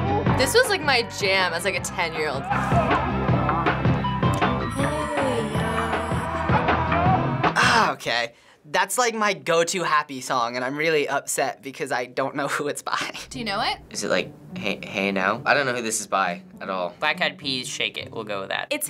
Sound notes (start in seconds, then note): 4.7 singing along; 7.6 groaning